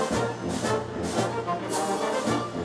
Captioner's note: none